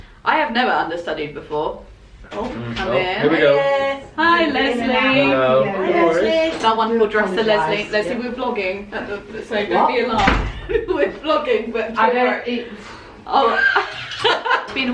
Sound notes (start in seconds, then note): 2.3 door opening; 13.4 laughter